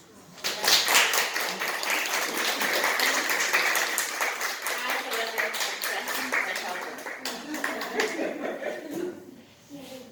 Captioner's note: audience applause